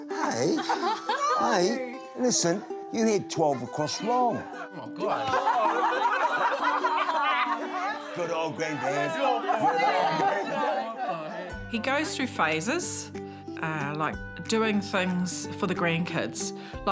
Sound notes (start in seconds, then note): 0.0 laughs; 0.0 laughter; 0.2 light acoustic music; 8.2 all laugh